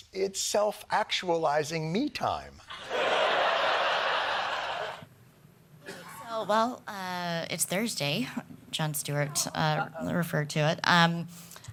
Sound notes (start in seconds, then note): 2.8 laughing